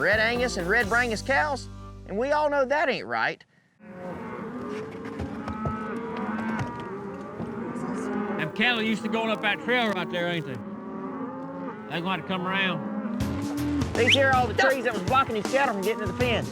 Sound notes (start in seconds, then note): 3.8 cattle moo